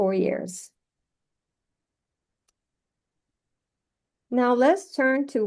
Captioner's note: silence